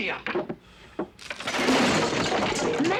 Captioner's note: clattering